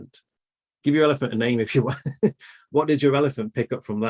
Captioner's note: laughs